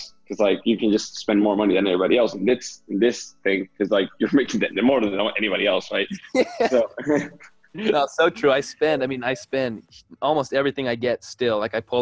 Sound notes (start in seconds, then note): 6.3 speakers laugh